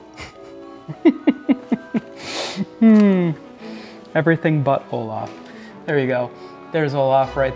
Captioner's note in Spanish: La risa